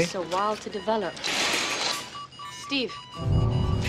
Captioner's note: beeping noise